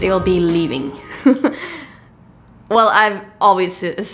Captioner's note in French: rires